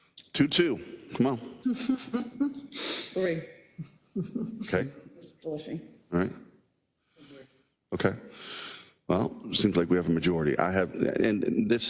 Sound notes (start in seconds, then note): 3.8 laugh